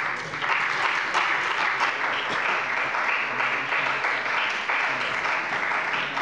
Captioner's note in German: Beifall bei der CDU und dem BÜNDNIS 90/DIE GRÜNEN